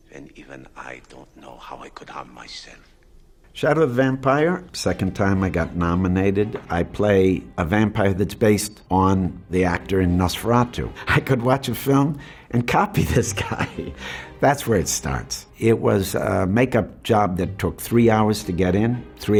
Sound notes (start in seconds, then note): 12.9 laughs